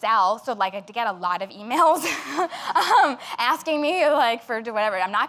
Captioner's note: laughs